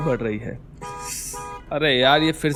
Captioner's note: car honking